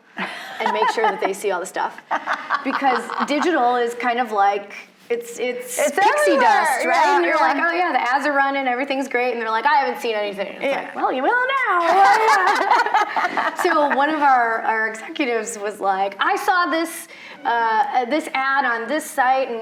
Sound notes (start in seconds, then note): 2.0 laughing; 11.8 both laughing